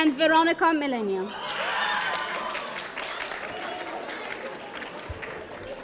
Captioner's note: audience cheering